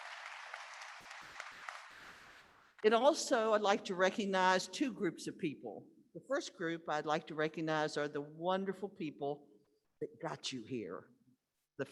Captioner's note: applause